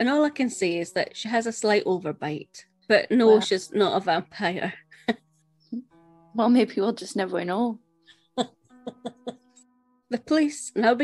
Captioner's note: laughs